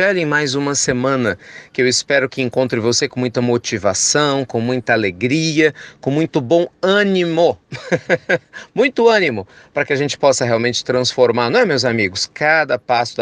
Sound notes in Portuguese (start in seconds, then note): 7.7 risos